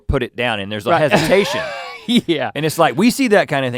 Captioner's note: laughs